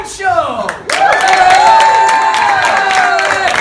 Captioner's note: applause